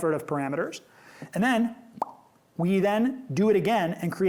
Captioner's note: mouth pop